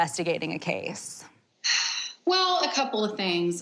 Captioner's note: sigh